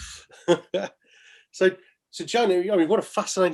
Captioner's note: laughs